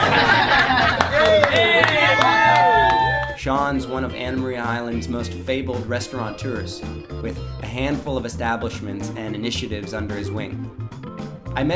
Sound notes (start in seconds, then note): 0.0 laughter; 2.0 cheering